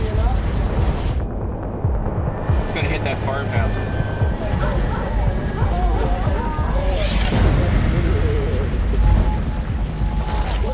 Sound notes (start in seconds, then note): 6.3 dogs barking